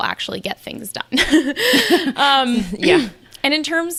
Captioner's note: both laughing